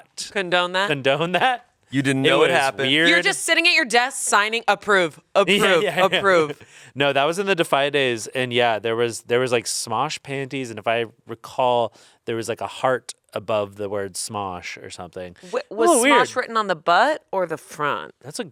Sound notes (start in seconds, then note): 5.6 chuckles